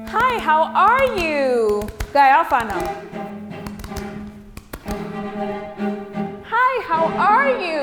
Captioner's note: begins switching between English and Nigerian Pidgin English